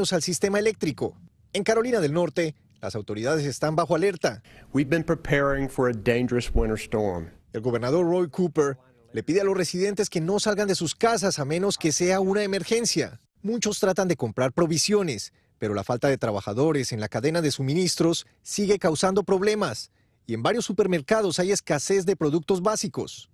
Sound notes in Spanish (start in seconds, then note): 13.6 habla en ingés